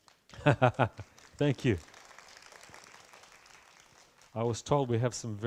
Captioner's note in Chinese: 鼓掌聲